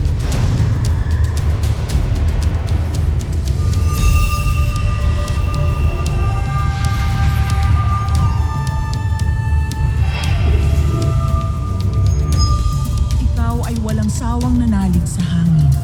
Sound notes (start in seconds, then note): 0.3 whoosh of light; 3.5 sparkling whoosh & chimes